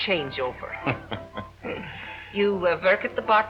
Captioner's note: Alibi laughing